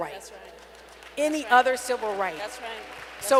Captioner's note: applause